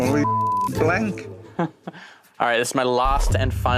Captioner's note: Jack chuckles